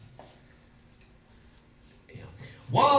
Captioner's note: silence; whispers